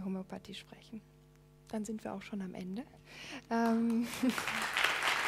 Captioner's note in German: Applaus